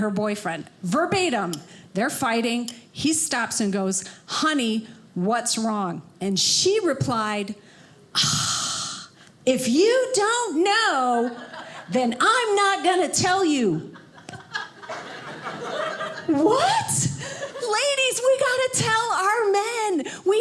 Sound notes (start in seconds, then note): 7.9 sighs; 14.0 audience laughing